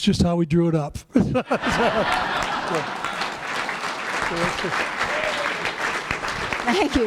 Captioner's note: laughter